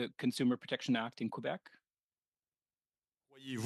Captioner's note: speaking French